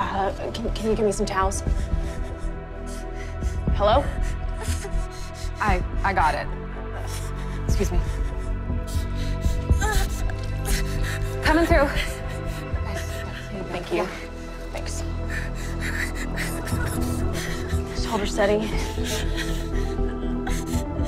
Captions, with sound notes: - Can you give me some towels? Hello? - I-I got it. Excuse me. - [whimpering] - Coming through. Here you go. - Thank you, thanks. - [whimpering] - Hold her steady.